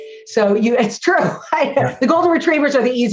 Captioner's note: laughs